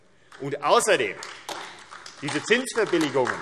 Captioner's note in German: Beifall AfD